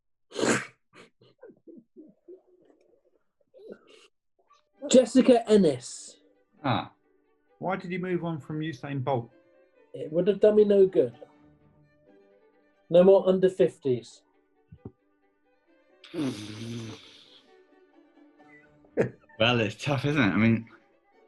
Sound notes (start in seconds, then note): 0.2 laughing; 15.8 splutters; 19.0 chuckling